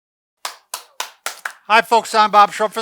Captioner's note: clapping